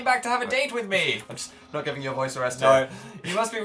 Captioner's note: laughs